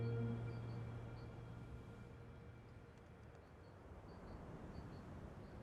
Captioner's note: wind blowing gently